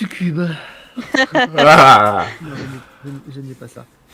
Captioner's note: laugh